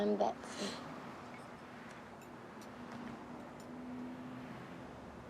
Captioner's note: cars whooshing